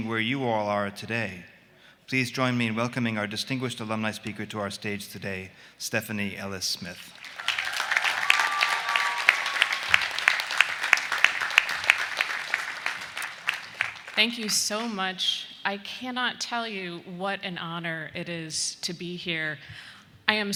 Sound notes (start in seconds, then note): 7.0 students applauding